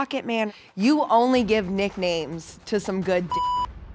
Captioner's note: beep